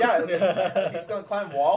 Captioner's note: laughter